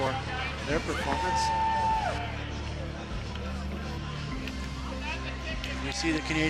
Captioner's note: cheering